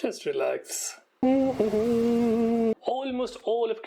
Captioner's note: humming